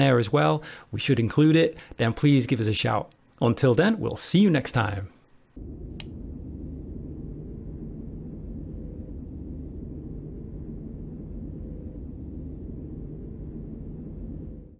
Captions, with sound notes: as well we should include it then please give us a shout. Until then we'll see you next time! [Click] [Distant echo of tunnel rumbles]